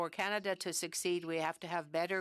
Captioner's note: speaking French